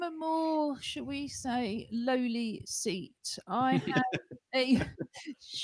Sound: laughter

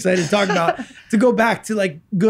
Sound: laughs

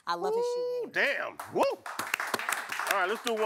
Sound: applause

